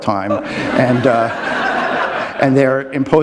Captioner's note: laughter